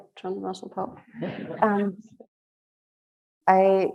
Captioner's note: audience chuckling